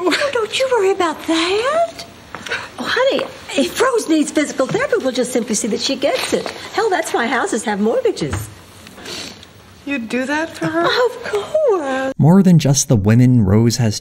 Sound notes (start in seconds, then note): none